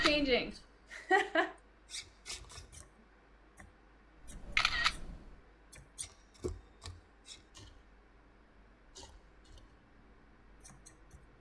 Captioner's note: camera shutter click